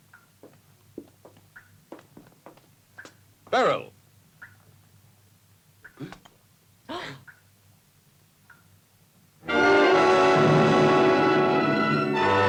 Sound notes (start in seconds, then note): 5.9 Nemek gasps; 7.2 Corinne and Albert gasp; 9.5 jarring music